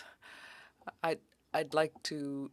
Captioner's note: speaking French